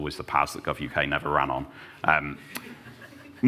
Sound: laughter

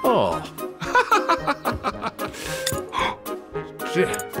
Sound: laughs; gasps

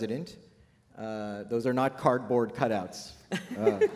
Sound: laughter

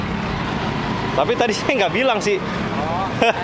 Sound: laught

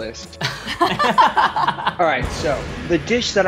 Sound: laugh

